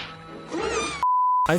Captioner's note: squeak